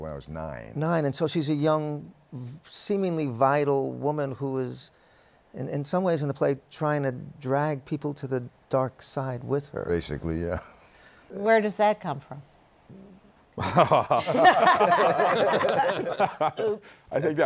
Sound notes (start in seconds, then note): 13.6 laughs; 15.2 laughter